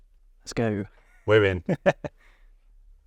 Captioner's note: chuckles